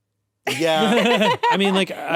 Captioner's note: laughing